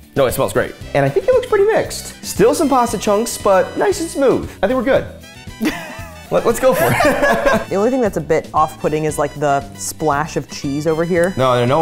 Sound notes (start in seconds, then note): 6.5 laughing